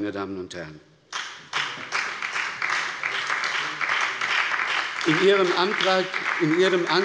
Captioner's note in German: Beifall bei der SPD und der FDP